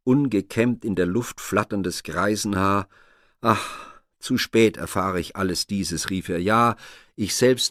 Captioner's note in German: seufzt